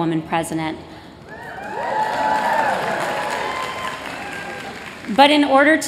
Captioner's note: cheers